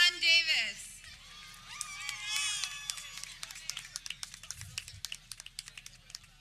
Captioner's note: people cheering